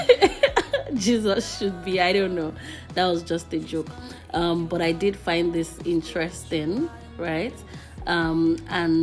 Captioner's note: laughs